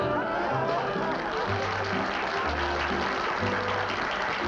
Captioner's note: applause